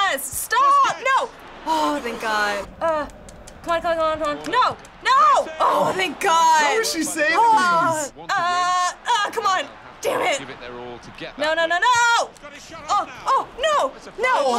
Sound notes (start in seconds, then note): 0.0 groaning; 1.3 sighing; 5.0 sighing